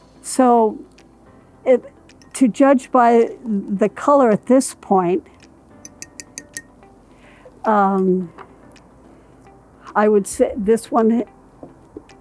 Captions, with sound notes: - So, to judge by the color at this point, (chopstick clinking) I would, this one